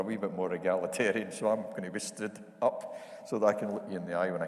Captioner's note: chuckles